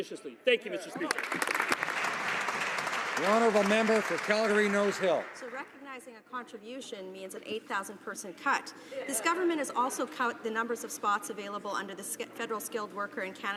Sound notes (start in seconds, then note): 4.6 some Applause